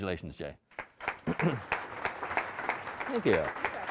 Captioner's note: audience applauding